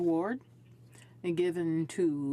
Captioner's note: speaking in French